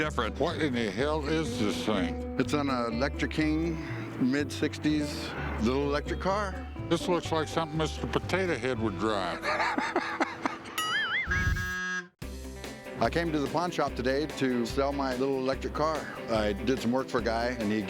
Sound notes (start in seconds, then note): 9.4 laughter